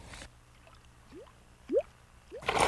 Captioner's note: bloop, bloop